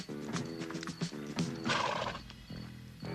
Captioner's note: horse neighing; dramatic music